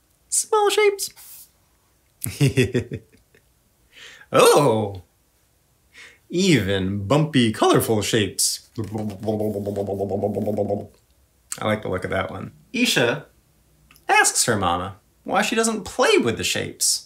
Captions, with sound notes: Small shapes. Even bumpy, colorful shapes. (Bubbly sound) -I like to look at that one. Eisha asks her Mama why she doesn't play with the shapes.